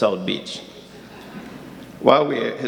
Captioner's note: audience laughing